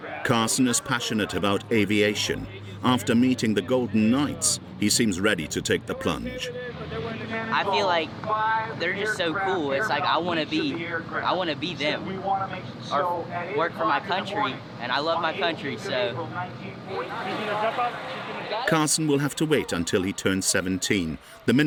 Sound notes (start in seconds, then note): 17.0 people chattering